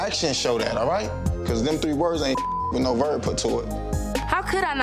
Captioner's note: beep